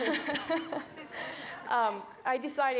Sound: everyone laughs

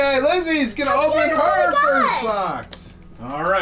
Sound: yells

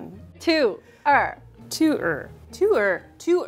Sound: speaking in mandarin

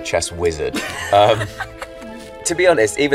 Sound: Jessie laughing

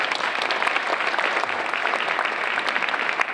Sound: applause

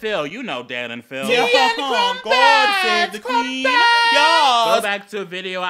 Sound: exaggerated and stereotypical shouting in British accents

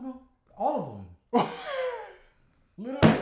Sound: laughs

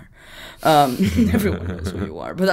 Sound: laughing

